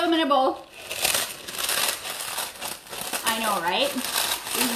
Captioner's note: chips rattling